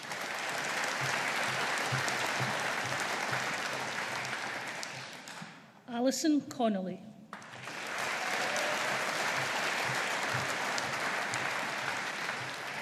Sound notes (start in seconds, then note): 0.0 audience applauding; 7.3 audience applauding